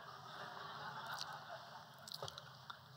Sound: laughter

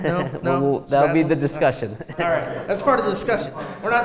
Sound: laughs

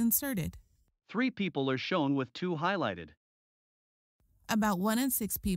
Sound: voiceover

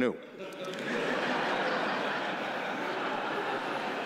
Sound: laughing

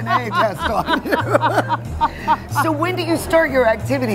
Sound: laughing

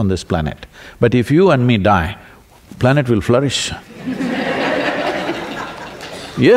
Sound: laughter

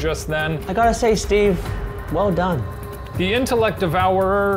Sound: English accent

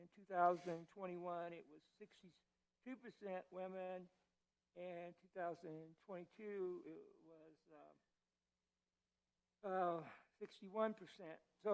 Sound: stutter

